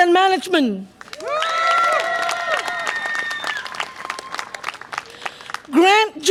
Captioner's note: audience applause and cheer